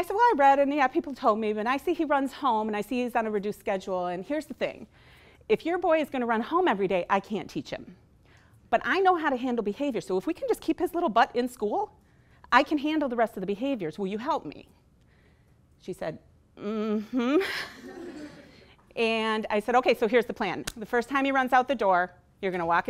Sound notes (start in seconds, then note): 17.3 laughing